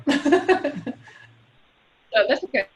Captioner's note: laughs